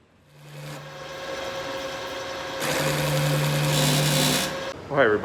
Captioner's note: machine roaring